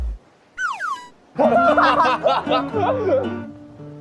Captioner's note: laughter erupts